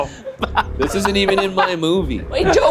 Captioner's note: laughs